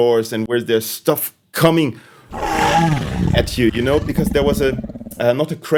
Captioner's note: roar